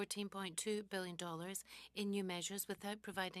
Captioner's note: speaking french